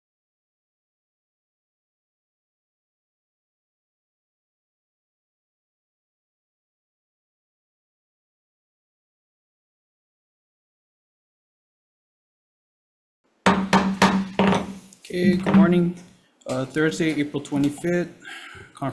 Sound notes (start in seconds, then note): 13.4 gavel pounds